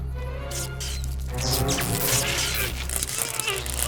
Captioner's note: electricity sizzling; suspenseful dramatic music; electricity continues sizzling; Sonny grunting; electricity zapping